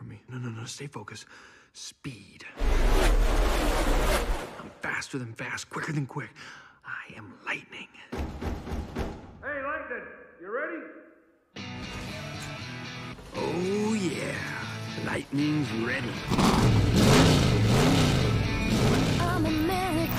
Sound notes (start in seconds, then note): 2.6 vroom Vroom; 8.1 knock Knock Knock